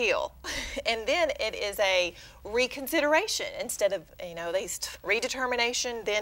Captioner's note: chuckle